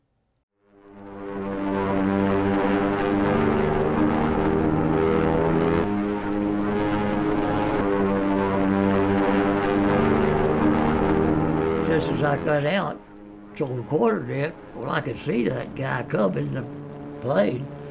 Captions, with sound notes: (plane engine revving) Just as I got out on the quarterdeck well I can see that guy coming...the plane